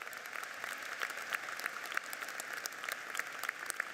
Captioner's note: applauding